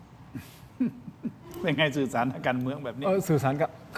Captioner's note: laughs